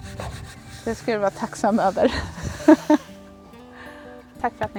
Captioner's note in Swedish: skratt